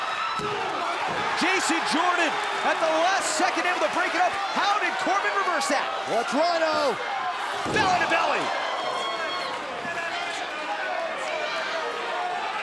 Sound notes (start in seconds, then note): 3.0 crowd cheering